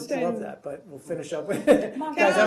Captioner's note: laughter